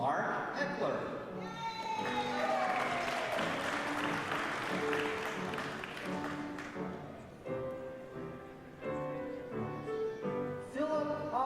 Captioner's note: applause